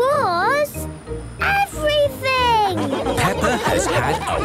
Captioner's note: laughing